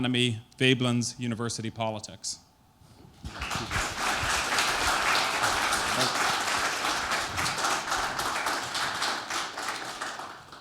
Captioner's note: applause